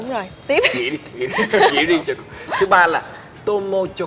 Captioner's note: laugh